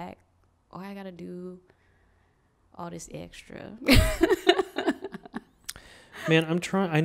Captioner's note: laughs